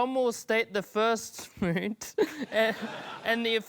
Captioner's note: laughs